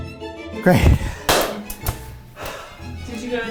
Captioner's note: lid crashes; sighs heavily